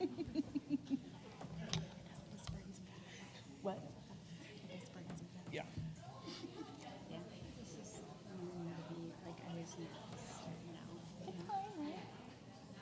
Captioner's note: background chatter